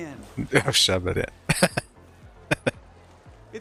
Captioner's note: chuckling